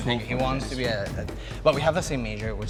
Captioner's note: crowd speaks